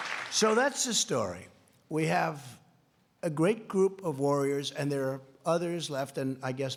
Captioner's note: applause